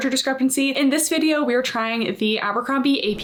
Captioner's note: text whooshing